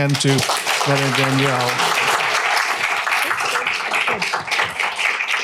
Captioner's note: applause